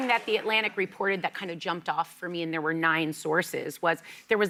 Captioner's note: applause